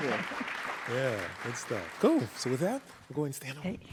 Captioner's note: applause